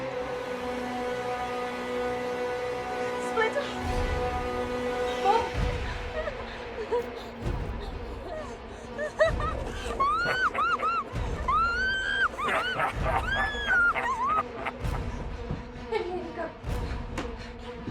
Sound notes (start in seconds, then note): 6.3 Jane whimpering; 10.0 leprechaun laughing; 11.3 Jane screaming; 13.4 suspenseful music